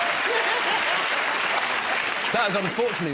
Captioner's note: cheers and applause